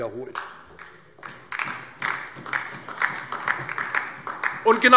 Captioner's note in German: Beifall DIE LINKE